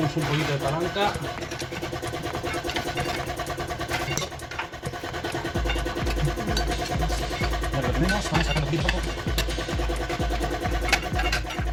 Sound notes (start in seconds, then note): 4.6 laughs